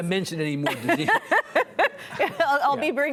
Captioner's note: laughing